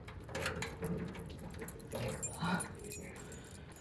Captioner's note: unlocking gate